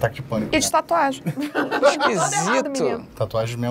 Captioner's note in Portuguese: risadas